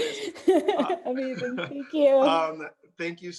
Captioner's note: laughing